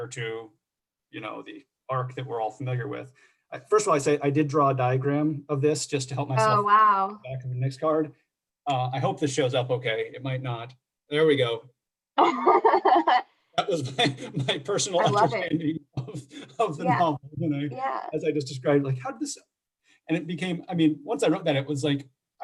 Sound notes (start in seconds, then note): 12.2 laughter